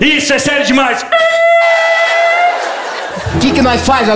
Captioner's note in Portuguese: pneus cantando